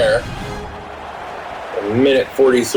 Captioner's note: crowd Noises